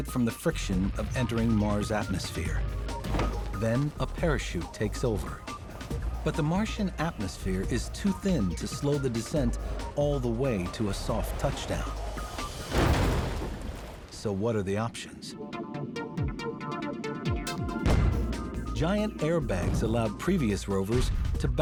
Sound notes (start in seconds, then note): 12.8 loud banging